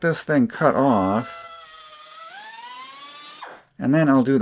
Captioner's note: cutting sounds